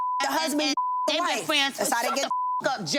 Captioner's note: beep